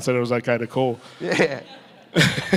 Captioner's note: everyone still chuckling